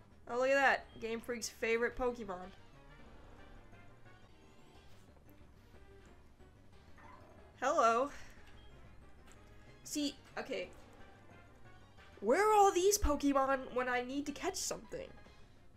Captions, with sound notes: Oh look at that, Gamefreak's favorite Pokemon. Hello. [SIGHS] See? Okay. Where are all these Pokemon when I need to catch something?